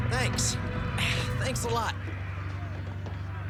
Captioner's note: grunts